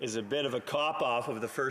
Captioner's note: some Applause